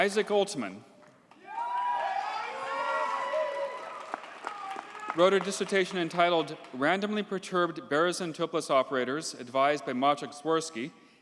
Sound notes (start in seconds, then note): 1.4 audience cheers and applauds